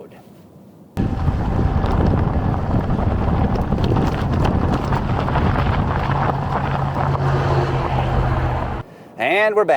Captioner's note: car driving